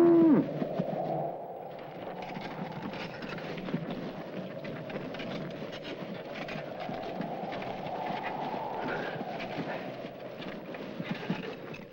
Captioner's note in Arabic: تهب الرياح